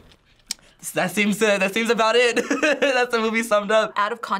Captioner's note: laughs